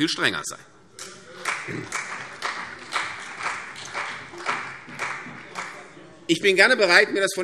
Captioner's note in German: Beifall CDU und BÜNDNIS 90/DIE GRÜNEN